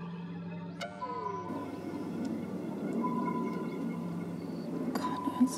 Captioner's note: beeping continues